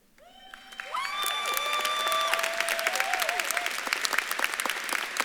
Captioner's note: audience claps and cheers